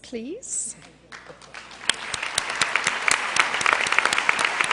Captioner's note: cheers and applause